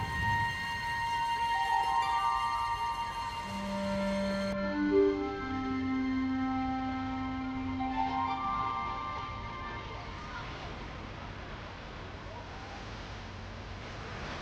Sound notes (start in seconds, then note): 7.8 people playing; 9.3 people chattering